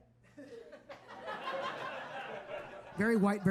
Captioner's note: audience laughing